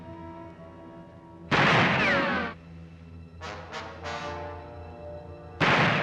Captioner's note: sinister music; gunshot; bullet ricochets; gunshots